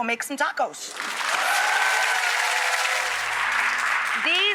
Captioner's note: audience applauds